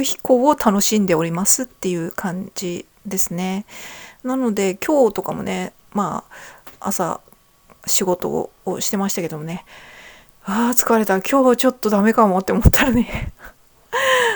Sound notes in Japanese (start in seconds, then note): 10.2 ため息